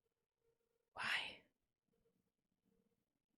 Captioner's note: whispers